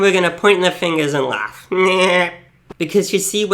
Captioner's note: laughs comically